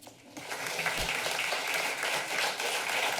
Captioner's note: applause